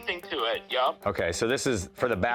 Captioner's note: on phone